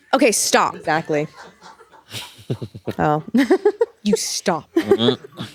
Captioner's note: audience laughing